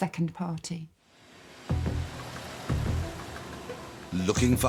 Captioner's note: dramatic music; train engine roaring